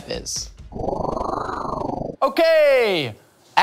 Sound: whooshing

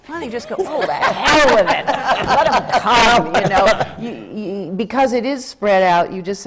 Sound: laughter

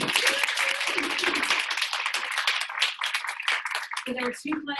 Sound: audience applauding

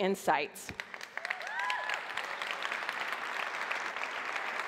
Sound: applause

